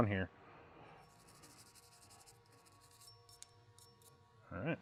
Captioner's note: brush scratches